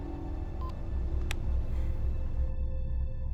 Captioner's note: sighs softly; phone beeps off